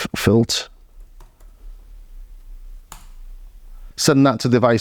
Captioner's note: keyboard clicking